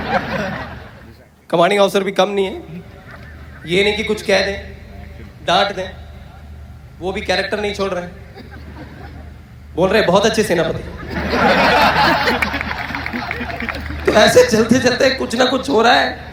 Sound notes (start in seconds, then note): 12.3 audience Laughter